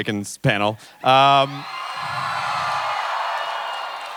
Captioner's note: crowd cheering